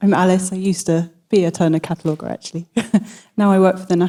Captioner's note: laughs